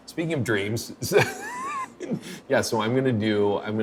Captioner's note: laughing